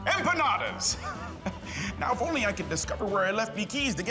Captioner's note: laughs